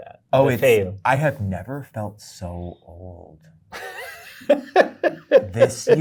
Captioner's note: guy laughs